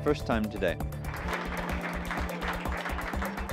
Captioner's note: clapping